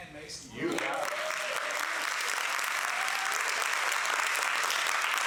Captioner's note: applause